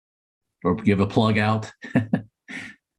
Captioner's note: laughter